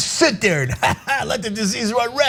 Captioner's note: laugh